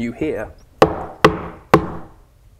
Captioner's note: knock knock knock